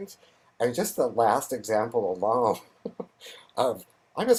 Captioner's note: laughs